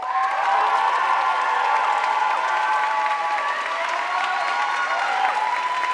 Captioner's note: audience cheering and applauding